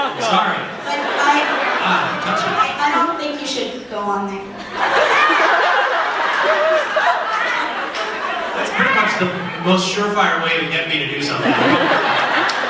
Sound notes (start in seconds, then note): 4.3 crowd laughs